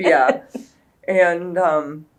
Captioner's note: laughs